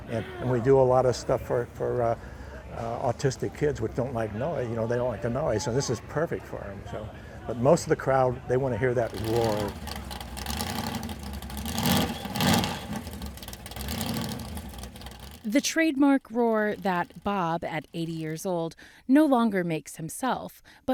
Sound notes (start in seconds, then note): 9.0 car roar